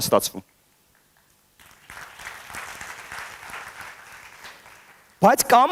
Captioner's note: applause